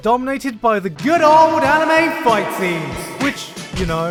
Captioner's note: echoed yelling